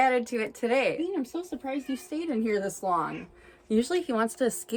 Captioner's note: meows